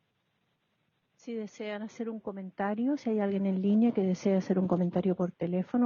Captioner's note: woman speaking Spanish